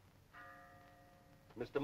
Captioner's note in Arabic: رنين الجرس